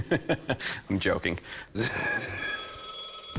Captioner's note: laughs; phone rings